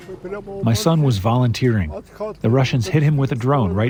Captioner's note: through translator